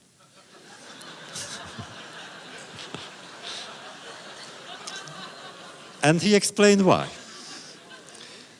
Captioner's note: audience laughter